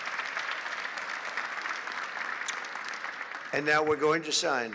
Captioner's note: applause